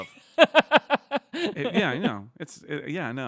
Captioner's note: laughing